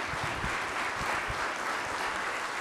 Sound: applause

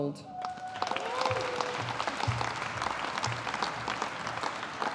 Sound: audience applauding

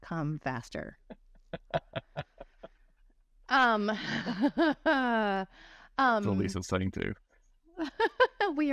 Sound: both laughing; laughing

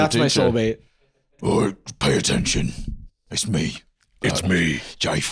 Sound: deep and raspy

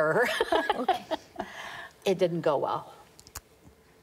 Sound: laughter

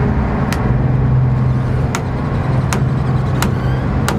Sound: boat creaks

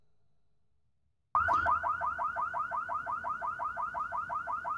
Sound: car alarm blaring

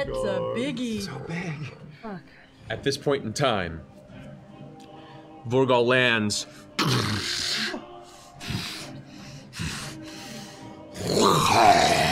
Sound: snorting

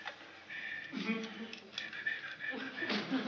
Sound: whistling quietly

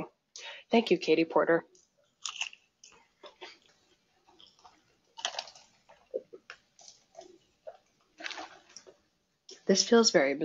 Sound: crunching and sipping noises

